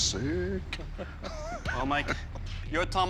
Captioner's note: laughs